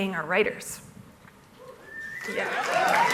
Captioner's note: applause; cheers